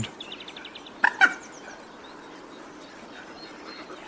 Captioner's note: moorhen calls